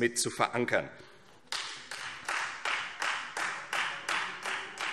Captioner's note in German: Beifall Freie Demokraten